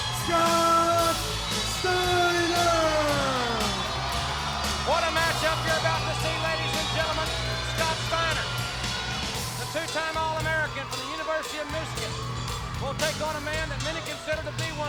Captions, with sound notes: Scott Steiner. (upbeat music) (audience cheering) What a match up you're about to see ladies and gentlemen, Scott Steiner, the two time all American from the University of Michigan will take on a man that consider to be